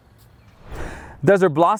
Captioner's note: air whooshing